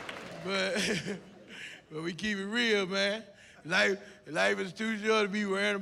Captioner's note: laughs